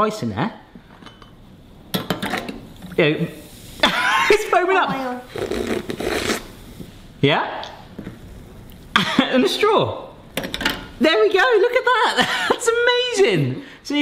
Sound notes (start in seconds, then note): 2.1 ice plops; 5.2 slurps beverage